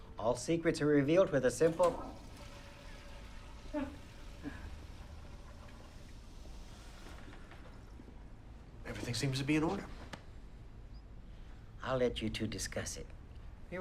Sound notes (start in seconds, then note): 1.4 toilet flushing; 3.9 Bryn chuckles